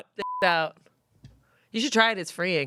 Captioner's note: beep